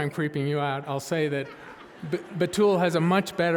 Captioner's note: audience laughing